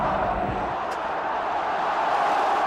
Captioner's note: cheering crowd